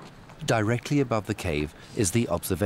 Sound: none

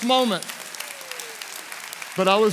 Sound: congregation applauds

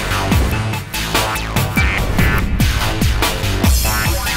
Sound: upbeat electronic music; logo whooshing

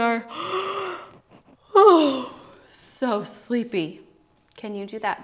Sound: yawns

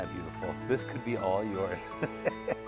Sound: laughs

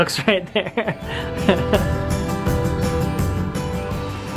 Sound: laughs

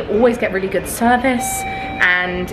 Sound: lift bleeping

